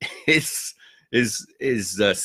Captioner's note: laughs